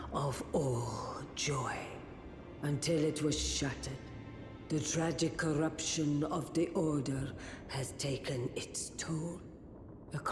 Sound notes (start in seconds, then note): none